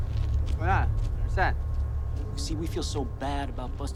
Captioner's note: drug runner speaks Spanish